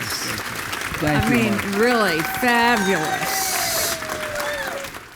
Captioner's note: audience applauding